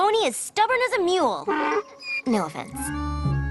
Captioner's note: mule brays